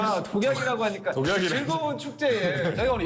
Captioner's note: laugh